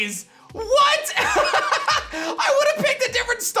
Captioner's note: laughs